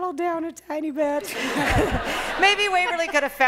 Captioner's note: laughter